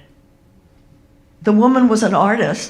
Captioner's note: none